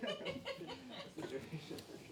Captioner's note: chuckles